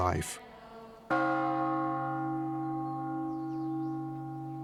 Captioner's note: bell gongs